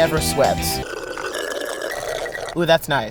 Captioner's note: group slurps